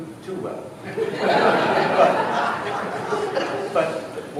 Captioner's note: laughter